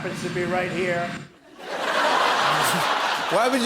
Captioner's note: laughter